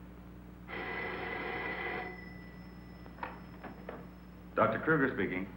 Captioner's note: phone ringing